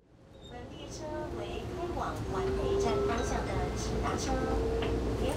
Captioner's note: airport train announcing stops